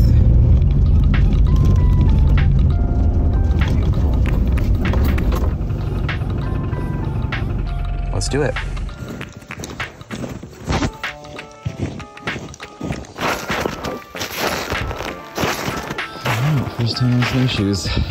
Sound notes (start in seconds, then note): 0.0 humming sound; 8.5 footstep sound